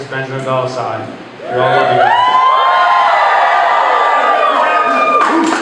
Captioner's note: applause